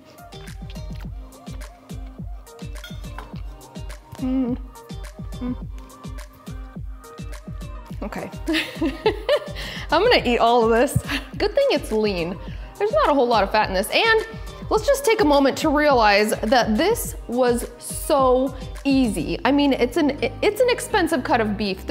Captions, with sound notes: (light music) OK. (laughing) I'm gonna eat all of this. Good thing it's lean. There's not a whole to of fat in this. And, let's just take a moment to realize that this was so easy. I mean, it's an expensive cut of beef.